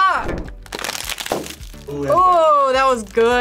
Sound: bag pops

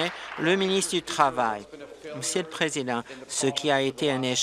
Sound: applause

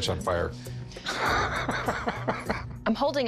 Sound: laughs

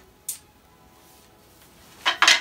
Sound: racquets hitting

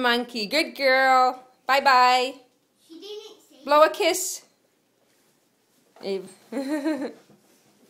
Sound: laughter

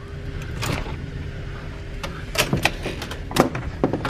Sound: latch clunks

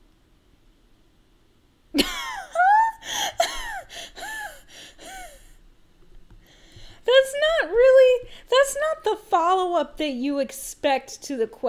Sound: laugh

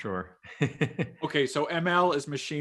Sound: laughs

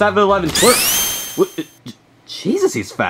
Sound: Luigi swooshing

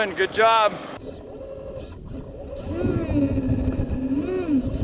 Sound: machinery whirring

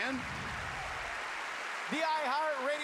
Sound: cheers and applause

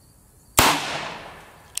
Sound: gun fires

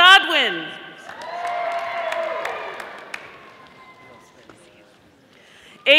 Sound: audience applauding

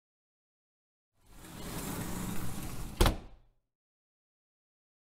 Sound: sound of door

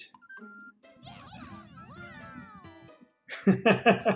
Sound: Toads cheering; laughs

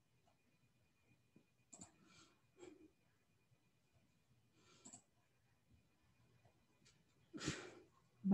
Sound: mouse clicking

